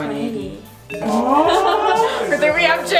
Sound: laughing

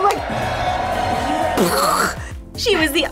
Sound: mimics explosion

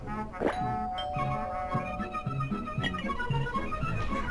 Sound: doorbell ringing

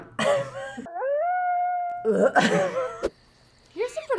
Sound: laughs; wolf howling; gags

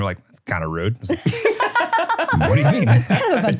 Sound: laughing

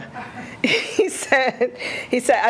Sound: laughing

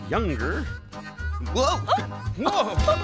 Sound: gasping; laughing

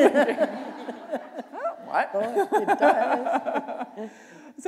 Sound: laughter

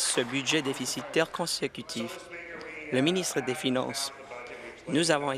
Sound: applause

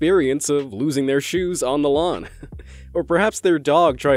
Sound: giggles

